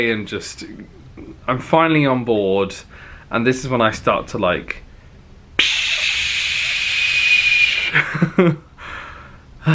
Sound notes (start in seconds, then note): 5.5 imitating air hissing; 7.6 laughing